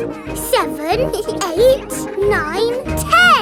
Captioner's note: both giggle